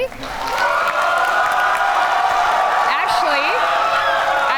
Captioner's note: audience applaud and cheer